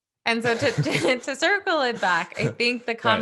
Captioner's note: laughing